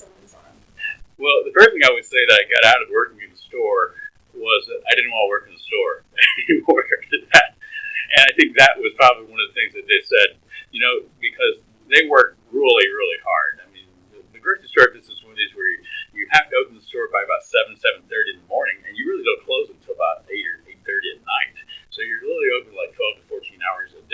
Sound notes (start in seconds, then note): 6.1 laughs